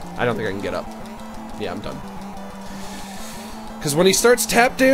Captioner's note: inhales deeply